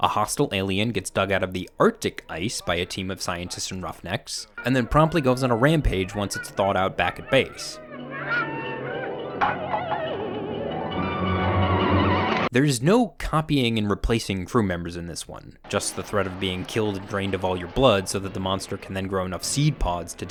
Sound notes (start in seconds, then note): 7.9 eerie wailing music; 9.3 tumbler clunking